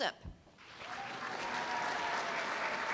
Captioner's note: applause